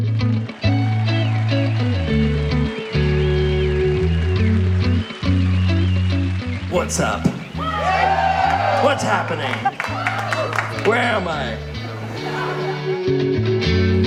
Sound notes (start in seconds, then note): 0.1 audience applauds; 6.7 audience cheers; 9.2 audience claps; 11.4 audience cheers and laughs